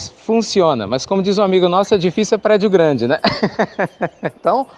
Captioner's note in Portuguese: Risos